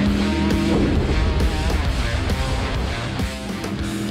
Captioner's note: explosion